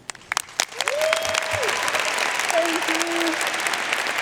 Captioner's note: audience cheering and applauding